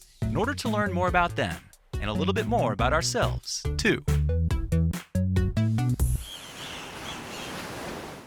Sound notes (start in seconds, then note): 6.1 birds calling; 6.2 waves crashing